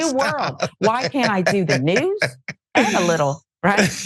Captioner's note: laugh